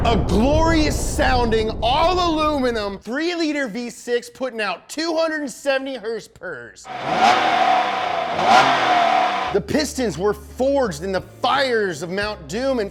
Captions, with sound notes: a glorious sounding all-aluminum three liter V6 putting out 270 horsepowers. (engine revving) The pistons were forged in the fires of Mount Doom